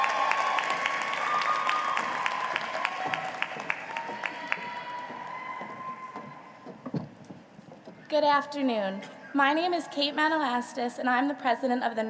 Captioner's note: applause